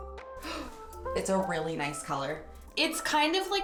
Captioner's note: gasps